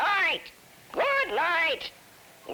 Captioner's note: parrot talking